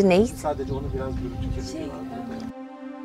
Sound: indistinct background chatter; somber music

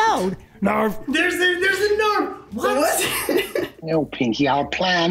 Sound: laughs

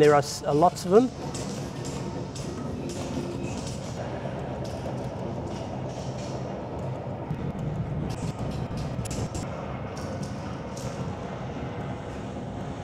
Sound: tapping sounds

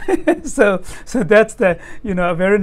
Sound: laughs

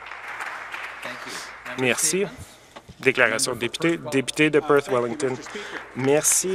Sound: some Applause

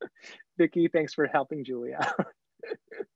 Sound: laughs

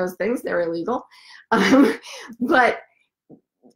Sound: giggles

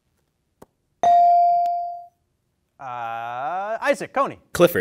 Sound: bell dings

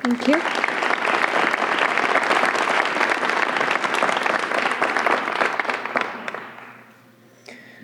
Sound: applause

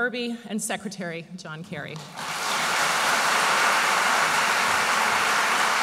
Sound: audience applauds

